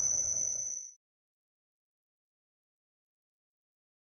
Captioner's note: long silence